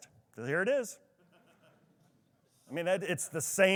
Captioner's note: attendee laughs